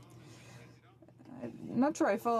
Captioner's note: speaking French